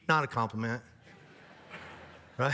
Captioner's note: audience laughs